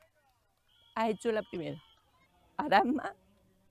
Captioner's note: excited